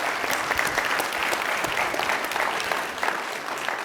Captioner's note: audience applauds